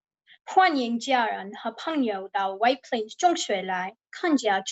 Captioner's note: speaking in Chinese